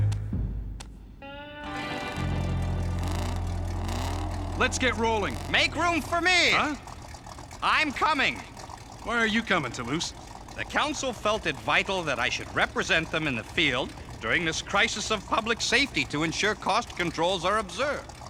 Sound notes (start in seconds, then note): 3.3 engines revving